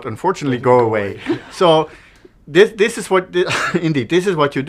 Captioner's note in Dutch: lach